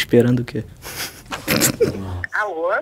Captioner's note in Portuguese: risadas